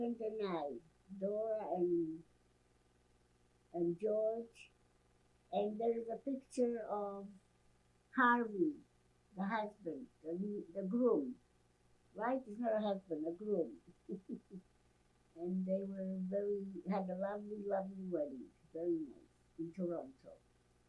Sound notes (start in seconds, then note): 14.0 laughing